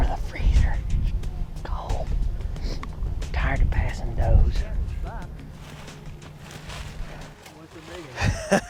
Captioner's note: laughter